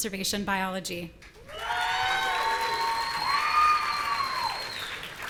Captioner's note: audience cheering